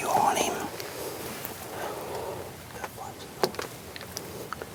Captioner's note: whispering